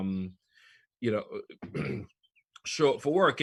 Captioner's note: clears throat